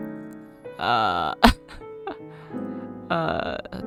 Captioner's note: laughs